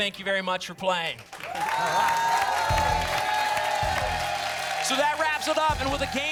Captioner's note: applause